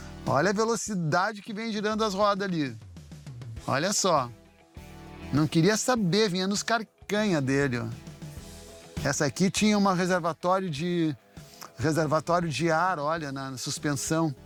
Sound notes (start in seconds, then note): none